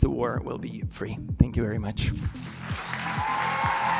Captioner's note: applause